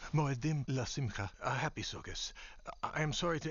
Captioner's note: speaking Hebrew